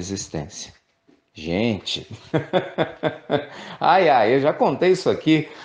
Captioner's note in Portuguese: risos